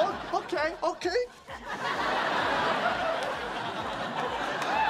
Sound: audience laughs

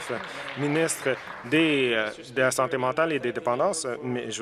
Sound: some Applause

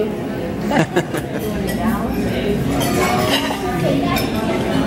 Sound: chuckling

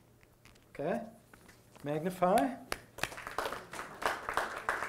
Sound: audience applause

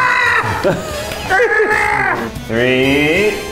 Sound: shouts; laughs

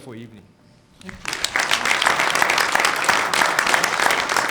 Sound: clapping

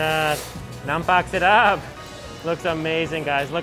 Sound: speaks in foreign language

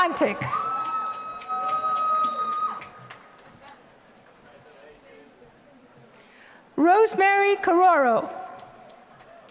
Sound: applause; applause

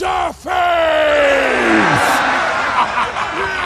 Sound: cheering; rocket laughing

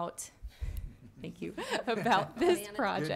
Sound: chuckles; laughs; some chuckling

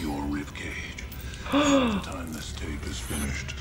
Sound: person gasps

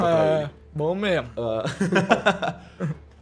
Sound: laughs

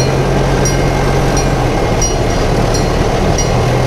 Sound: train rumbling

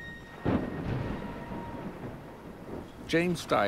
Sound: thunder rumbles

